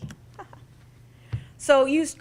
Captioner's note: laughs